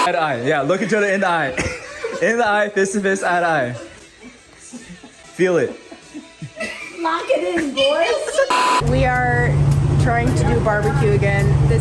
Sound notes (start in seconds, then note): 5.5 Ryan laughing